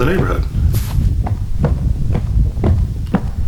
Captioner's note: footsteps